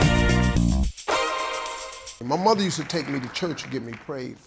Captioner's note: applause